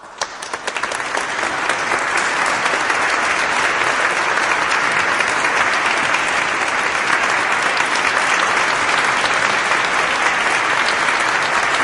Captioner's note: applause